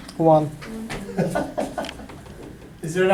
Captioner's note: voiceover